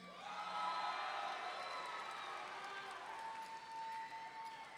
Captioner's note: audience cheering